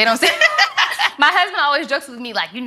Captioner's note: ladies laugh